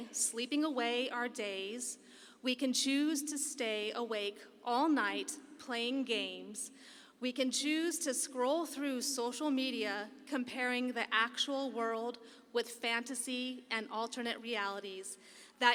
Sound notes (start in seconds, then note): none